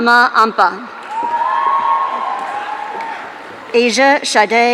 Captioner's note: audience cheering